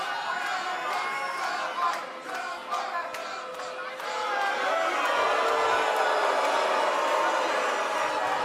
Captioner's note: fans chanting